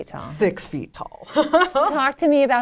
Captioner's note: laughs